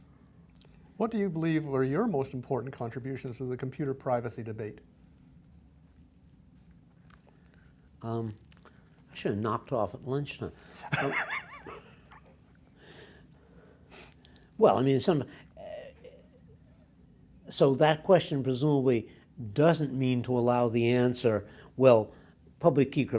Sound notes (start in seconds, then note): 10.8 laughs